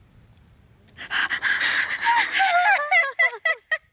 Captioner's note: panting; kkkkkkkkkkkkk